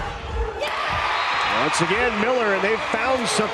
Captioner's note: crowd and players cheering